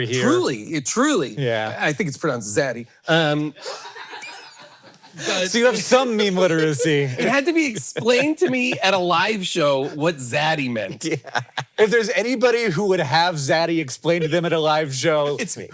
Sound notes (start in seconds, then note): 3.6 Hank laughing; 3.6 crew laughing; 10.8 laughs